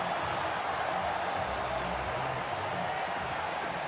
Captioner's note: crowd cheering